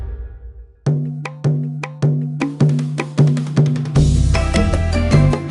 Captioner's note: none